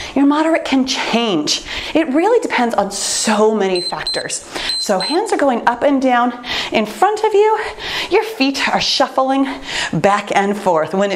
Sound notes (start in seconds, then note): 4.6 timer beeps